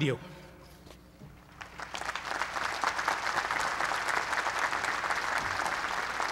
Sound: applause

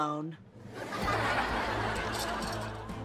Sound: audience laughing

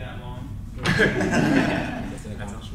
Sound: crowd laughs

